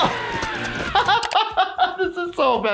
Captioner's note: laughing